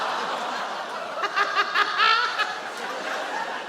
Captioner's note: sarah laughs